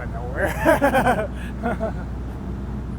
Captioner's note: laughing